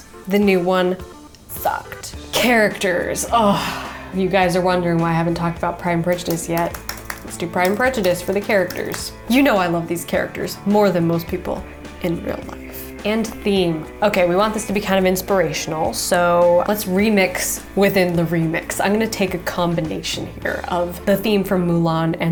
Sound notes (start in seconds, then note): 3.2 sighing